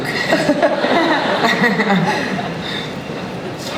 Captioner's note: laughter